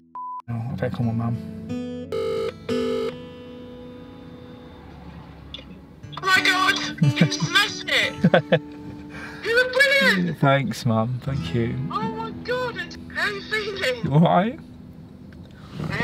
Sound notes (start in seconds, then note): 2.1 dialtone